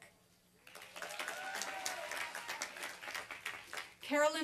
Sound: applause and cheering

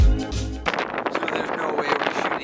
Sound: snow crackling

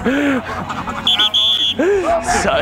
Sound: whistle blows

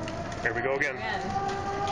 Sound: sirens sound

